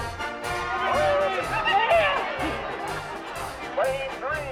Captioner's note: crowd cheering